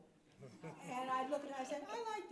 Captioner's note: audience chuckles